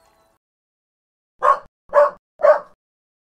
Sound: dog barks

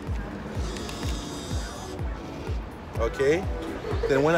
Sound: machine whirs

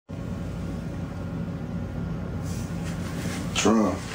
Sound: engine roaring

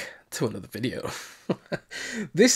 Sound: laughing

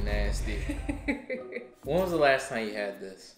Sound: laughs

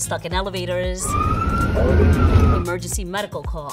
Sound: siren wailing

